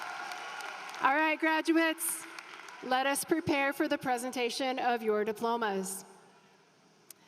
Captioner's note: applause